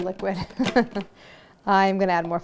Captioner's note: laughs